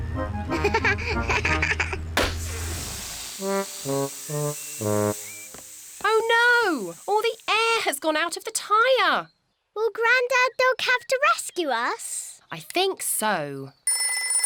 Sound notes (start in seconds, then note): 0.6 laughs; 2.2 tire pops, hisses; 14.3 rings